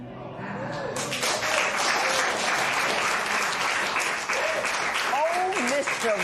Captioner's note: spectators murmur; applause